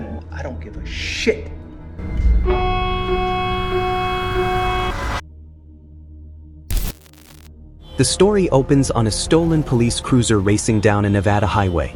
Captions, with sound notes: I don't give a shit. [siren blares] [static] The story opens on a stolen police cruiser racing down a Nevada highway.